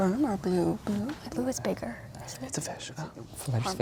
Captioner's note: whispering